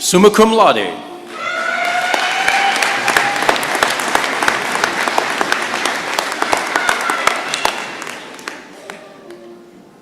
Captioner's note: applause